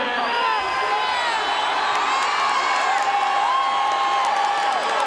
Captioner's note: audience cheering